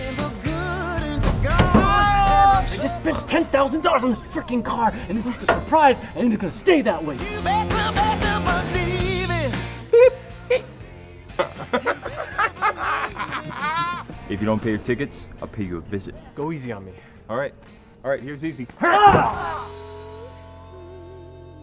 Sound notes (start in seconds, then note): 11.2 laughing; 19.6 yelling, slamming him on the hood